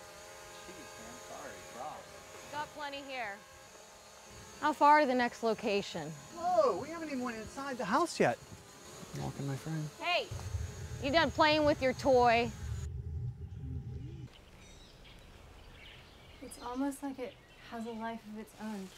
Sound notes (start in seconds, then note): 9.0 grumbles